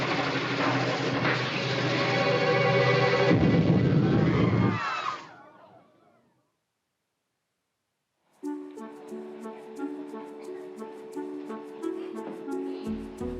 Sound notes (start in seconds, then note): 3.2 explosion, frightened yelping